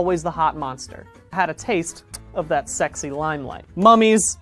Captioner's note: mwah